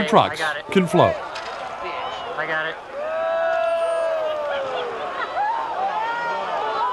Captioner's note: crowd jeers and laughs